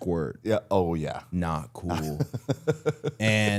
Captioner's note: Chad laughs